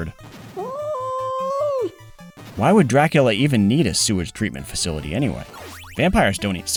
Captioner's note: yowl